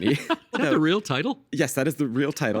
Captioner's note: laughing